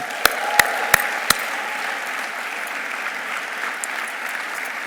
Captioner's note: audience applauding